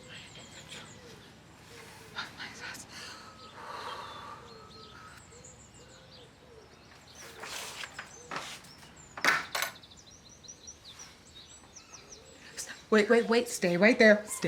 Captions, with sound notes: [whispering] I am in control of my thoughts. [exhaling] [latch clicking] St-- Wait, wait, wait. Stay right there.